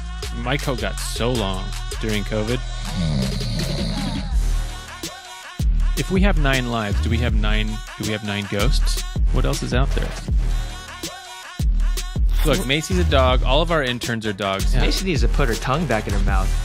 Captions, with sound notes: My coat got so long during covid. (Snoring) If we have nine lives, do we have nine… do we have nine ghosts? What else is out there? Look Macy’s a dog. All of our interns are dogs. Macy needs to put her tongue back in her mouth.